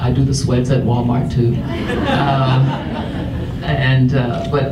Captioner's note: audience laughs